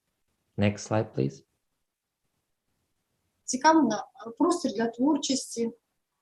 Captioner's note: foreign Language